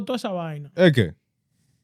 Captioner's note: speaking In Foreign Language